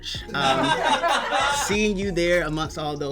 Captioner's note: crew laughs